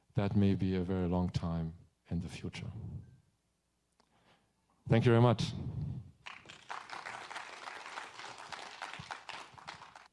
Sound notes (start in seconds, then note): 6.2 audience applauding